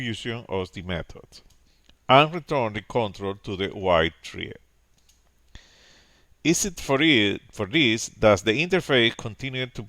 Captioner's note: click